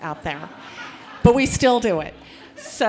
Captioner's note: audience laughing